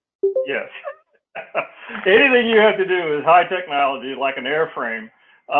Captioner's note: laugh